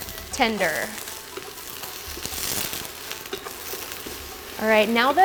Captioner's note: veggies sizzling